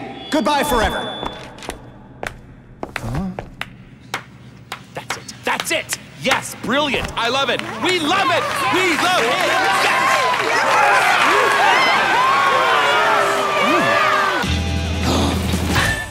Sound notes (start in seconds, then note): 10.7 all cheering; 14.4 theme music playing